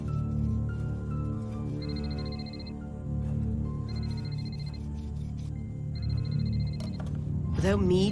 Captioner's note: phone ringing